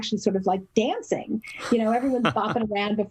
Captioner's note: laugh